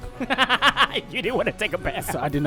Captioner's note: laughs